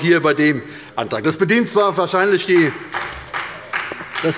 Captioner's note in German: Beifall bei der SPD